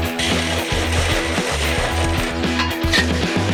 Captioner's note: upbeat music; drilling; metals clanking; upbeat music